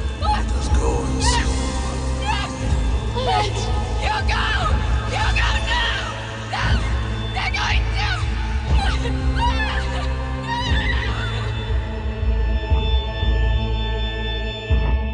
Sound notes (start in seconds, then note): 8.6 screaming desperately